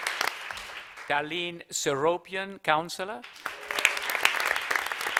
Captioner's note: applause